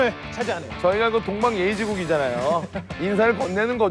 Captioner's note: haha